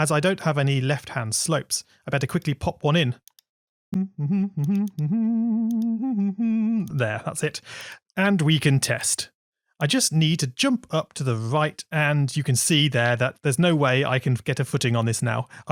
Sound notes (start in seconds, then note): 3.9 humming